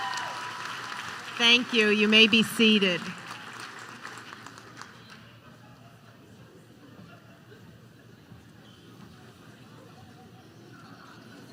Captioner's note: applause